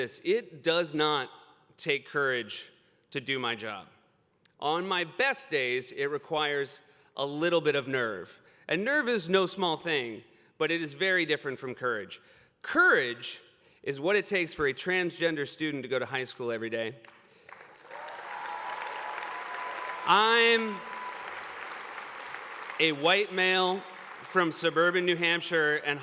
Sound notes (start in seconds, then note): 17.3 applause